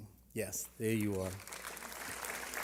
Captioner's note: applause